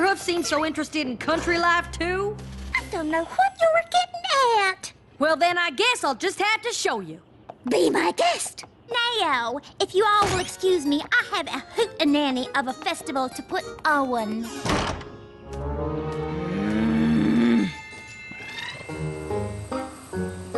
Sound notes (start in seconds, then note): 14.6 door closes; 16.4 growl